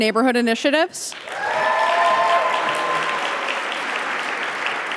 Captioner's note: audience applauding